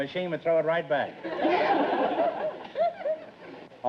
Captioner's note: laughs